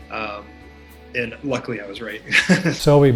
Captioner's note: laughs